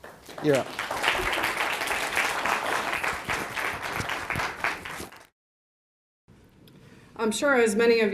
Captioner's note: audience applause